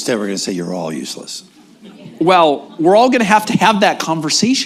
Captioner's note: laughter